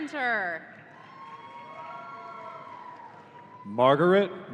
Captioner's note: audience cheering